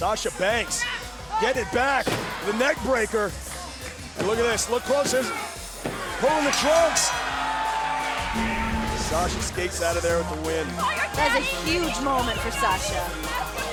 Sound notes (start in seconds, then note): 5.8 bell ringing